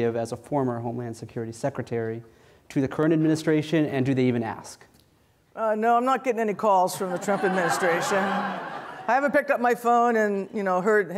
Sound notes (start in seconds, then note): 7.0 audience laughs